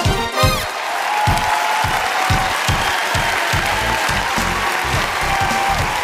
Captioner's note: cheering